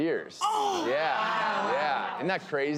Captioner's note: gasping